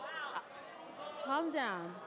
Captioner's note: crowd clamoring